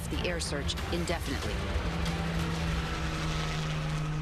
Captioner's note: helicopter whirring